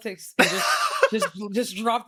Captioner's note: both laughing